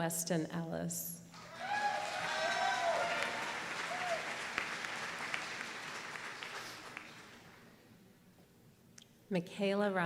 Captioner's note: applause